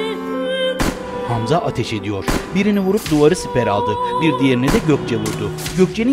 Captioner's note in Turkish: Silah sesleri